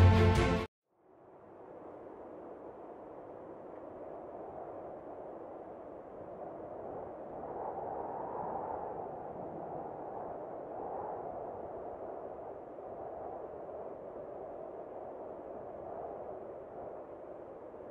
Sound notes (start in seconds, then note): 1.6 wind whistling